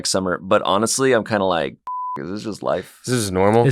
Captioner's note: beep